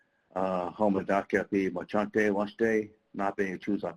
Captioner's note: foreign language